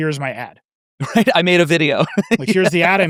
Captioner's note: laughs